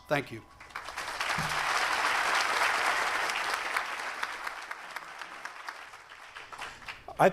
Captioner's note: applause